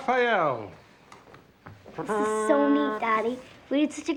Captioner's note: mimics fanfare